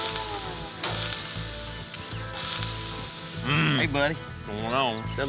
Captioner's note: sizzling sound